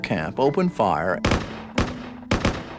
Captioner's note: rifles Fire